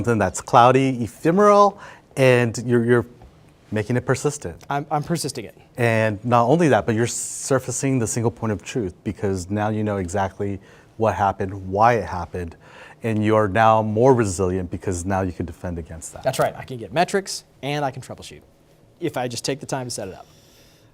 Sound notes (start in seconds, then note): none